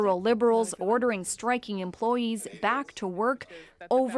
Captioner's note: speaking French